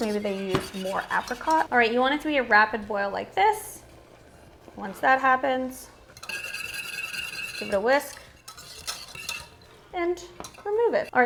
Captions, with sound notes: Maybe they used more apricot. All right. You want to hear a rapid boil like this? (sauce boiling) Once that happens, (spatula clanking) see the whisk and remove it.